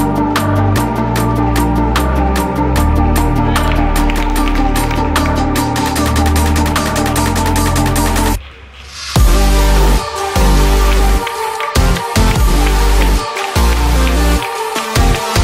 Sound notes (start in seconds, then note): 3.2 audience cheering and clapping; 10.9 audience clapping